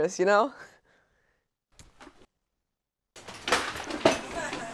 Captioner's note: laughs